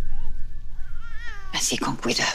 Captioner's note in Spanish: Llanto de la bebé